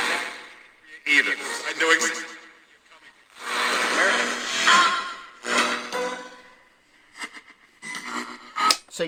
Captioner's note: radio static